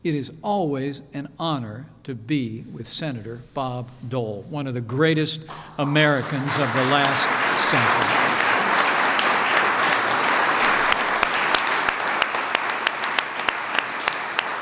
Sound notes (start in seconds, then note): 8.3 applause